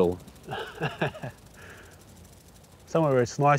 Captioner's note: chuckles